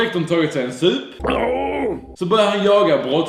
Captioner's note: aough